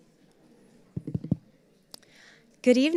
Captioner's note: tapping microphone